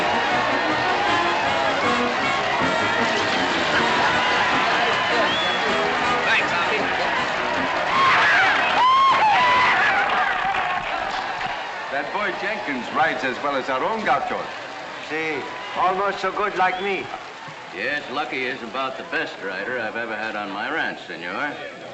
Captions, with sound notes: [ APPLAUSE AND CHEERS - INSPIRING MUSIC ] Thanks, Hoppy. [ APPLAUSE AND CHEERS ] That boy Jenkins rides as well as our own gauchos. Sí, almost so good like me. Yes, Lucky is about the best rider I've ever had on my ranch, señor.